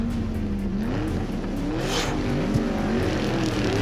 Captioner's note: car revs